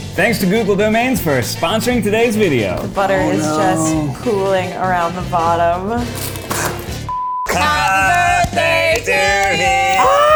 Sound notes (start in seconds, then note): 6.1 cone cracking; 7.1 beep